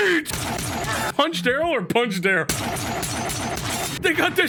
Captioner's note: gun firing; gun fires